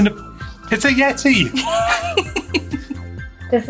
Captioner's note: laughing